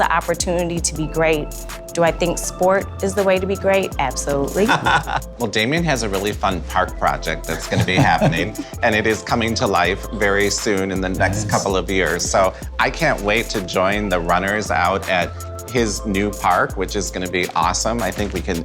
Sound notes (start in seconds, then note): 7.5 laughs